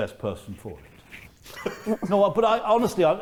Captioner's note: chuckling